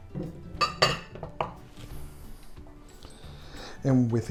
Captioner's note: glasses clattering